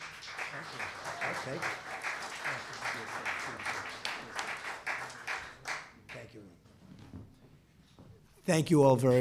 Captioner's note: applause